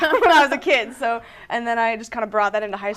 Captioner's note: laughter